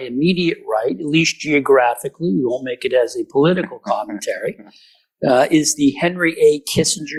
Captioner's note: laughter